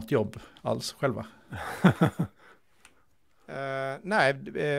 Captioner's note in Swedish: Skratt